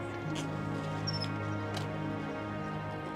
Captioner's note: blades creaking